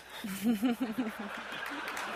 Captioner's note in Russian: смеется; смех и аплодисменты